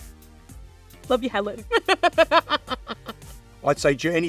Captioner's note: laughs